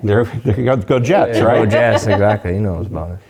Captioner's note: laugh